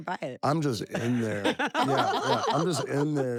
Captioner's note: laugh